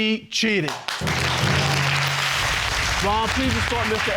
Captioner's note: audience applauding